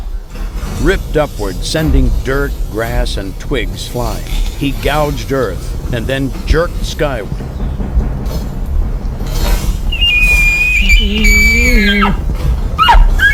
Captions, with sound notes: Ripped upward, sending dirt, grass and twigs flying, he gouged earth, and then jerked skyward. (cow mew)